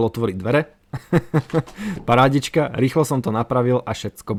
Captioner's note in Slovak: smiech